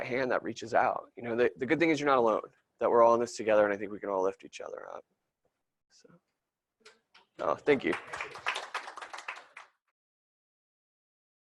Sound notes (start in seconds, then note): 7.6 applause